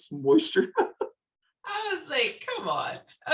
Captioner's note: laughing